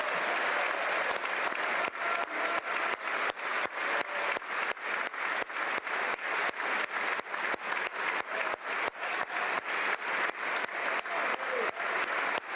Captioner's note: applause